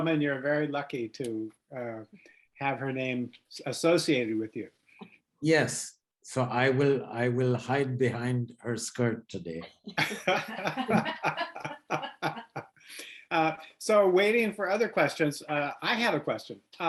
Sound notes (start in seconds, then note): 9.9 laugh